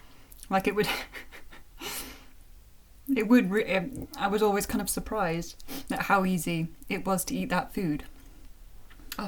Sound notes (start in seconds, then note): 0.9 chuckle